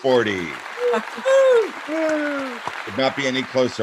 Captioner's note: applauding